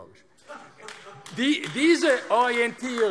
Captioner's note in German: Heiterkeit und Beifall AfD